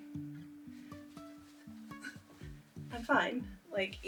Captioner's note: light giggles